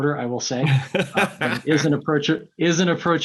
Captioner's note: laughing